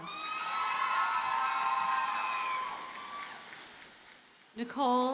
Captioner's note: audience cheers and applauds